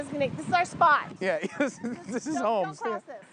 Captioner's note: laughing